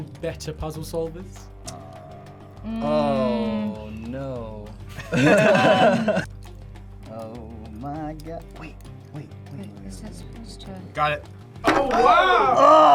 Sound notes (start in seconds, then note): 4.9 guys laugh